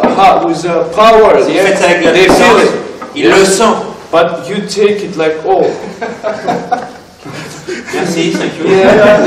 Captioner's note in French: Légers rires